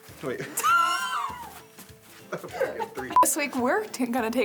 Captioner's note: laughter